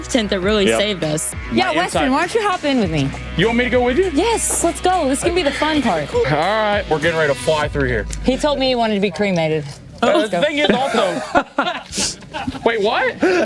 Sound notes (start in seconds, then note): 10.1 guys laugh